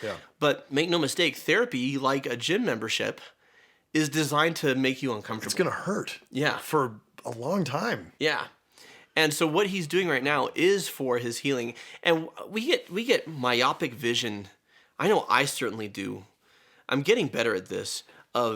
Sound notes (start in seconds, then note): none